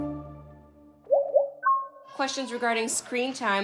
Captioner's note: alert chiming